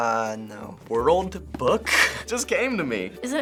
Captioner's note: laughs